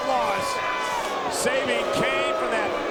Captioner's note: crowd boos